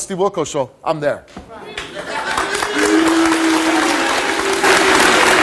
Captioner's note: audience applauds